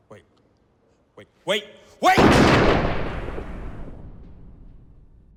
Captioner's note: gun fires